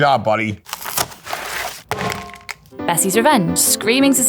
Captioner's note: cardboard ripping; pizza clanging; cheerful music